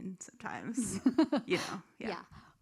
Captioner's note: laughs